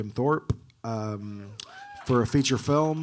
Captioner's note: audience cheering